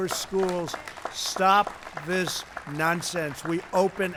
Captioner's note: applause